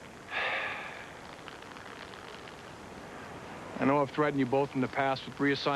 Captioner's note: sighs